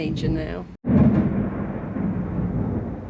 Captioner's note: loud thunder